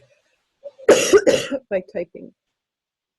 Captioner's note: coughs